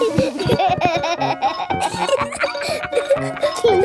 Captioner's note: giggling